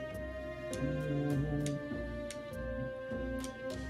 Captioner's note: humming along